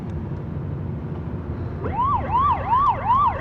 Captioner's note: siren wailing